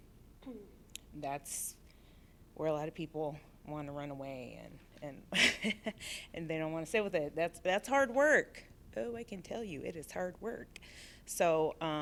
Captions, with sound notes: That's where a lot of people want to run away and [LAUGHTER] they don't want to sit with it. That's hard work, though I can tell you it is hard work.